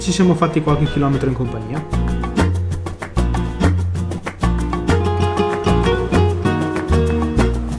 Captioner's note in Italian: Applauso